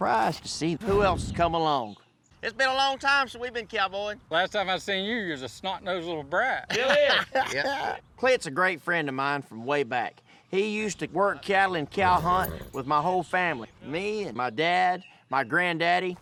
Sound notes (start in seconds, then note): 6.7 laughing